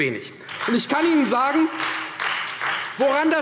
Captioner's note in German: Beifall Freie Demokraten